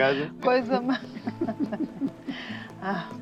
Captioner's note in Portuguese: risos